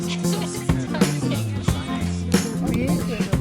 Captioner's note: laughter